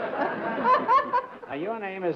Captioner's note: laughs